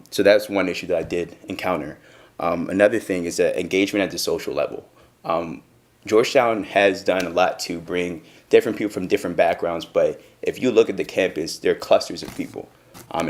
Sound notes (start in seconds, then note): none